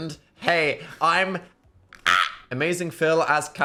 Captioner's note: squawks